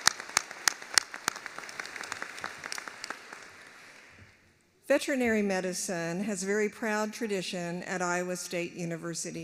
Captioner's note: applause